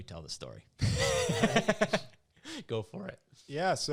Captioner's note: laughs